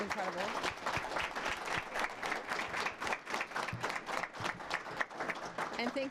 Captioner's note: applause